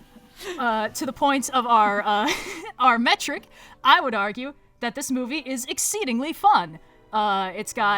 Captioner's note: laughs